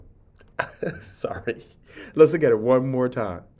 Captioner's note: laughing